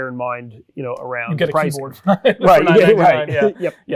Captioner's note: laughs